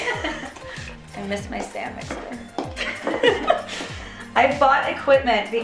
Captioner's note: laughing; laughing